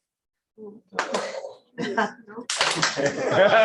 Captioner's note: clap